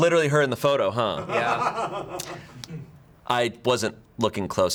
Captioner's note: crew member laughing